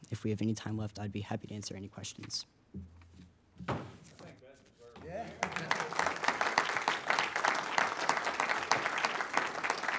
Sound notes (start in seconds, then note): 5.4 audience applauds